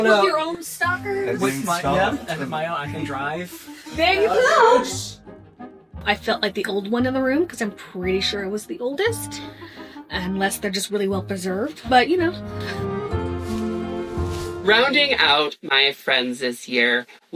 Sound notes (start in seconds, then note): none